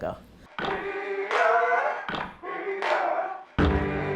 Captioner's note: chanting